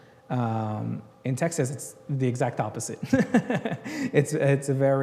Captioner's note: laughs